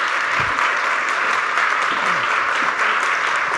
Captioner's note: applause